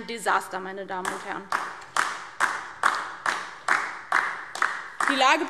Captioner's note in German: Beifall DIE LINKE